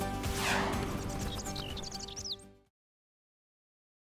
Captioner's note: birds chirping